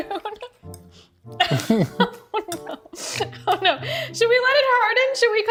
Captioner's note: laughs